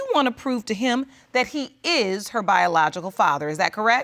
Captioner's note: none